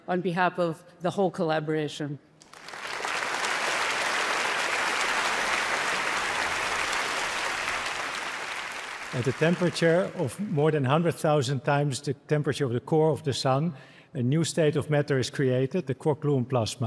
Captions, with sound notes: of the whole collaboration. (applause) - At the temperature of more than 100,000 times the temperature of the core of the sun, a new state of matter is created, the Quark-Gluon Plasma.